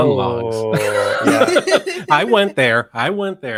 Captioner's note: all laughing